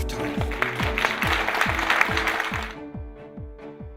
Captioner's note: round of applause